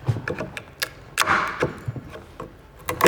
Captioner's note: cracking sound